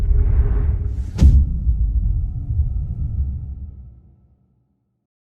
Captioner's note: dramatic sound